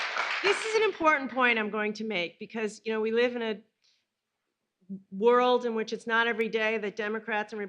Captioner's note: applause